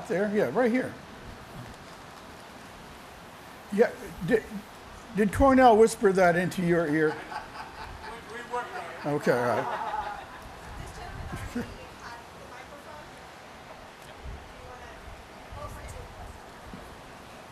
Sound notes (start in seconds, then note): 6.8 laughter